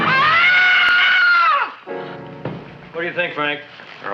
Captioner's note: Hortense screaming